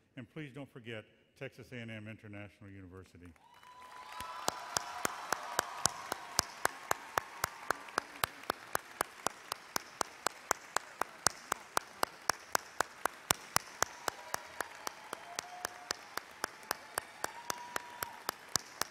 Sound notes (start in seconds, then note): 4.0 audience cheers and applauds